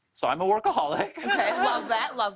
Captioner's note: laughs